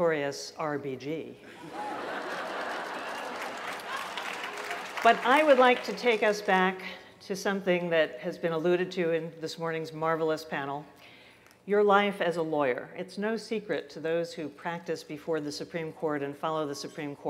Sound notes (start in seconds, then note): 1.4 laughter